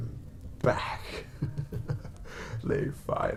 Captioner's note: evil laugh